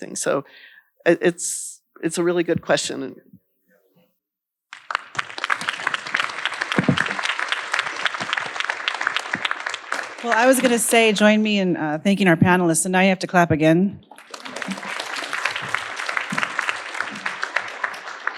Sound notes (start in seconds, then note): 4.7 audience applauding; 14.1 audience applauding